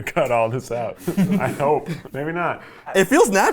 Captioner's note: chuckling